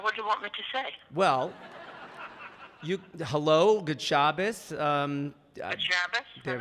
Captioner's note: audience laughing